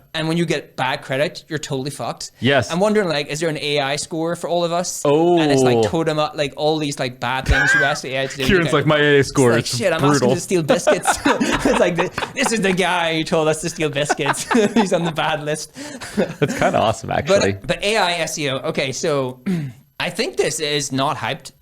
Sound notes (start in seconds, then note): 11.0 laughing